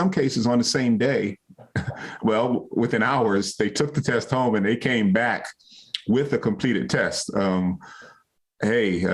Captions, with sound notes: And in some cases, on the same day, (chuckles) well, within hours, they took the test home, and they came back with a completed test.